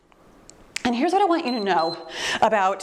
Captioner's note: timer beeps